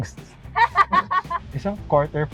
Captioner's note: laughs